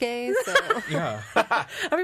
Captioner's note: all laughing